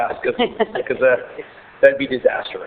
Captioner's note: laughing